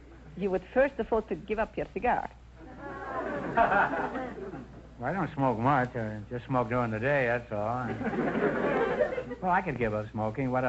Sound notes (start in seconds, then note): 2.7 audience chuckles; 7.8 audience laughter